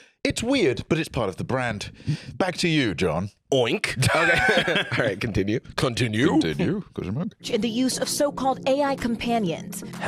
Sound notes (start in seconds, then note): 4.0 laughs